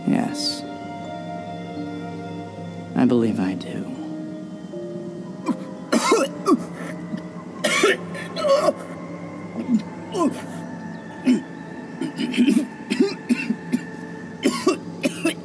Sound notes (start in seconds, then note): 5.9 Babcock coughs